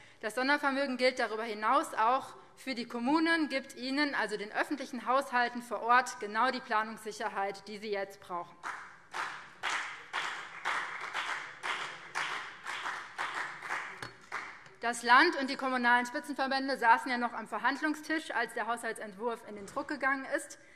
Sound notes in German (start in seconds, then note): 8.6 Beifall BÜNDNIS 90/DIE GRÜNEN und CDU